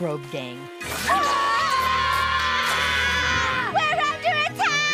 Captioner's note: all scream